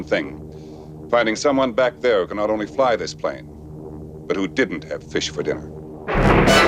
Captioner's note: airplane